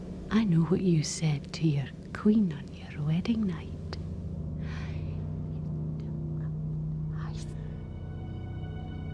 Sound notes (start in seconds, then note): 6.5 whispers